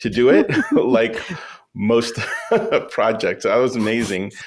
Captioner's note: laughs